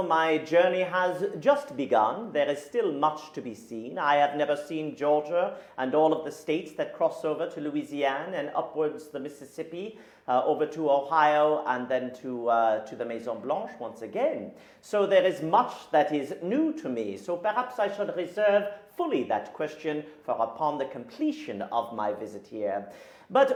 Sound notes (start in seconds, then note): 13.5 speaking in a foreign language